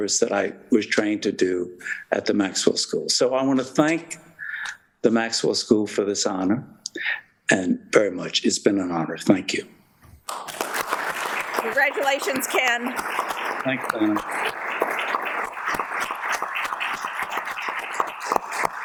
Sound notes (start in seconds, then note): 10.3 audience applauds